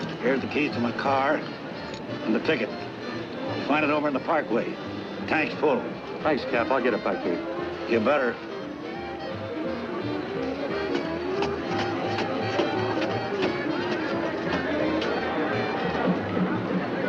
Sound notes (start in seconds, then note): 9.1 cheerful music; 9.1 people chattering